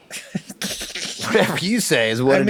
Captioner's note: Charlie laughing